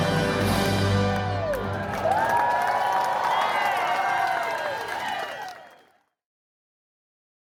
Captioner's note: guests cheering and applauding